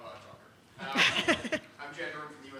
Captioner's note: laughs